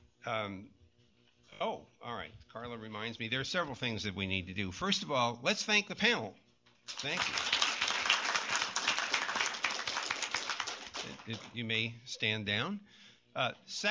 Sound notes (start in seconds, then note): 6.8 applause